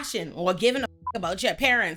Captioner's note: beep